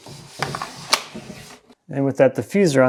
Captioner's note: strip clacking